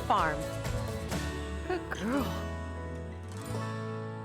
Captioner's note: affectionately to cow